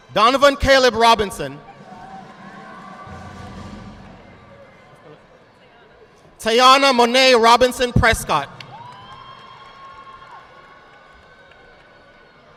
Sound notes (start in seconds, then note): 1.8 audience clapping; 8.5 audience clapping